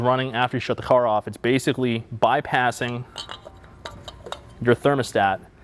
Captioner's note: pump rattles